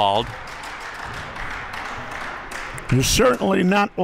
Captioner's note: crowd clapping